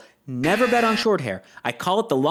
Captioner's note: "Wrong" buzzer